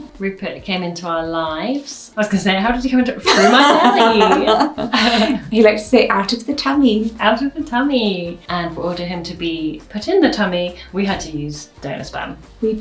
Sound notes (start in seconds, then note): 3.2 laughs